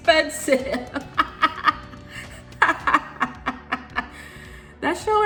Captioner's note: laughs